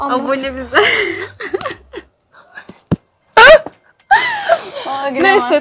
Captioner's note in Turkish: gülüşmeler